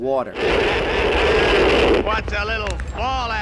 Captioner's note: geiger Counting SCREECHING